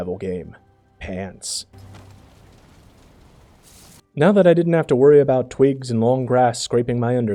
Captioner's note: pants wearing noises